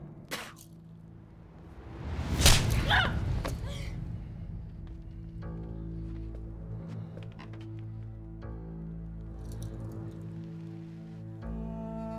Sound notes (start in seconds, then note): 0.2 Tükürme sesi; 2.3 Tokat sesi; 7.1 Müzik - Gerilim